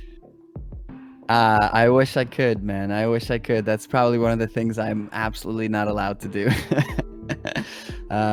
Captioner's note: laugh